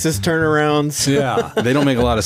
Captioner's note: laughing